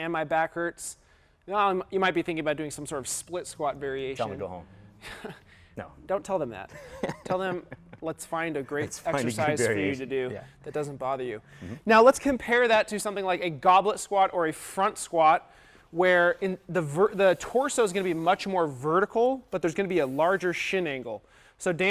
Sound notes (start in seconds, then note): 6.7 laughter